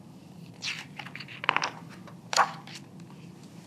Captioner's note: pages rustling